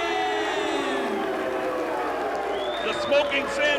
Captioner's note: crowd cheering